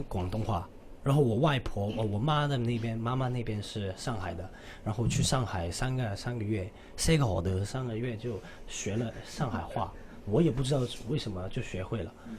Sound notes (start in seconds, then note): 5.8 says 3 months in Shanghai-nese